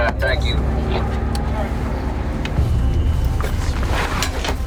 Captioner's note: gear rustles